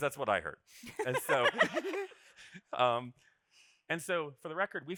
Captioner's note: group laughing